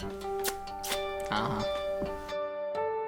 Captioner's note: kissing